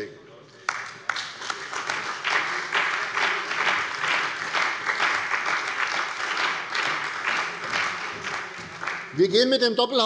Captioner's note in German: Beifall bei der CDU und dem BÜNDNIS 90/DIE GRÜNEN